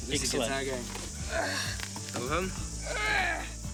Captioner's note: groaning